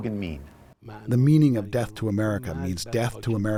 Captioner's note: through translator